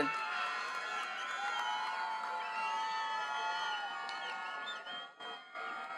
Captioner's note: attendees cheering and clapping